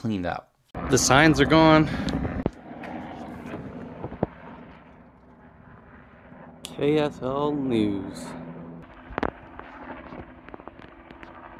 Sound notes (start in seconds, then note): 2.6 helicopter buzzes overhead